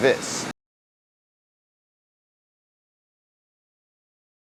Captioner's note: silence